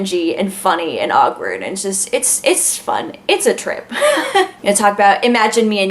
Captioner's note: laughs